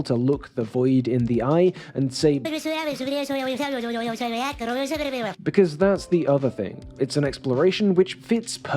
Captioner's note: clip - GLEP speaks gibberish